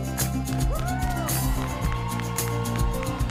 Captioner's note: upbeat music; audience cheering; audience applauding; upbeat music